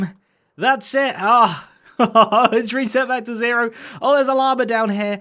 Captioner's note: chuckles